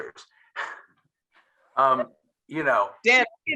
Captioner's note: chuckles